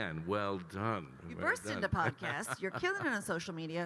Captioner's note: laughs